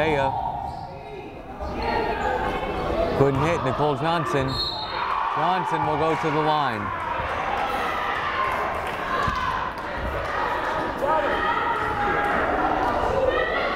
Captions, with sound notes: Bathea, couldn't hit, Nicole Johnson. Johnson will go to the line. (crowd cheering) (crowd chattering)